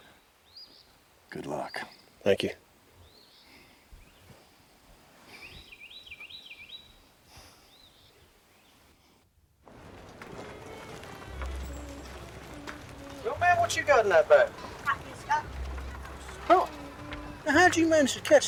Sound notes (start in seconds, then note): 5.2 birds chirping; 10.9 townsfolk bustling